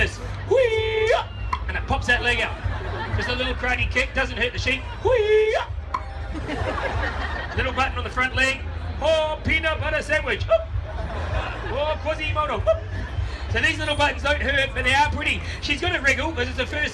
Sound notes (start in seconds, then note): 1.5 makes pop noise; 6.0 crowd laughs; 6.5 pop noise